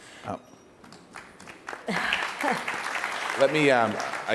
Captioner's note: applause